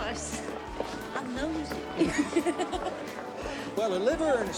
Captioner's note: laughs